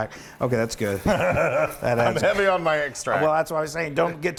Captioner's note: laugh